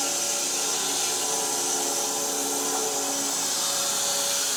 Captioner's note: saw buzzing